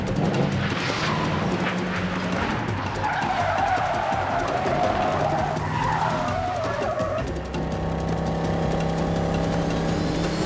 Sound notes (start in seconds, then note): none